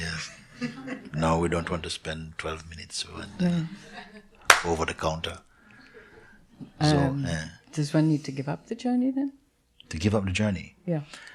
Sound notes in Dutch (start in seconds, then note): 0.3 gelach; 4.4 klap